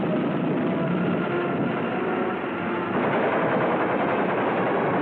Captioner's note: war sounds